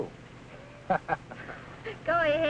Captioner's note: laughs